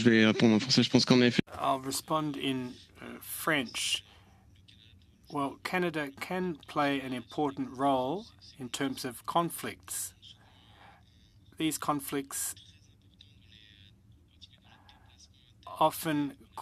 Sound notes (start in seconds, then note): 5.0 speaking French